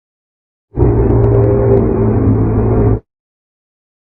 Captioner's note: supernatural 3D Evil Closeup Sound